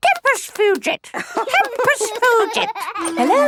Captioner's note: laughing; bird repeating